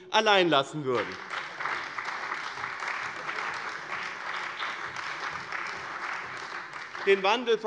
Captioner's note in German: Beifall bei dem BÜNDNIS 90/DIE GRÜNEN und der CDU